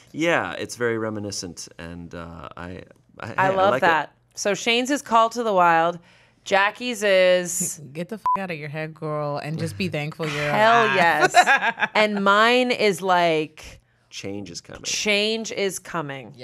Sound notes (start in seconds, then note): 8.2 beep